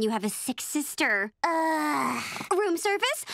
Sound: sighing

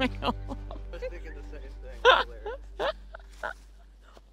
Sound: laughing

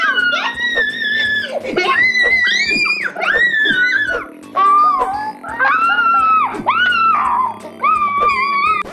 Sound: screaming

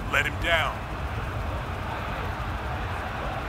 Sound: crowd chanting

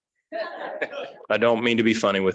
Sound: audience laughing

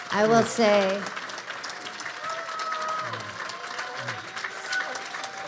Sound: audience applauding

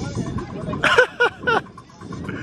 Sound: laughter

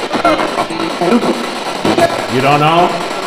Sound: spirit voice

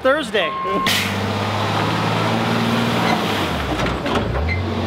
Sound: truck engine roaring

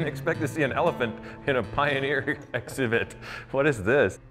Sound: laughing

